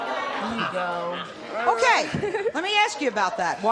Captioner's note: audience booing; laughs